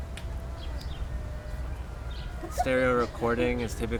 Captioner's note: birds chirp